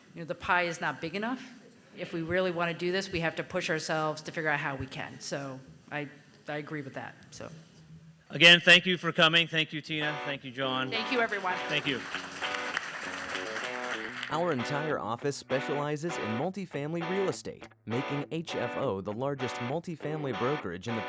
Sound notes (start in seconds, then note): 12.9 audience applauding